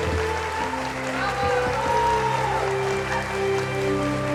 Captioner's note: cheering; audience applauding